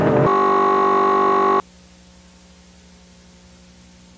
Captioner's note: distorted buzzing